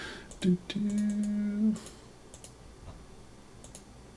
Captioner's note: humming